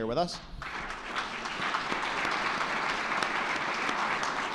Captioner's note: all clapping